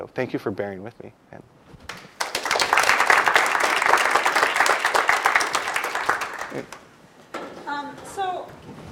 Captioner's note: applause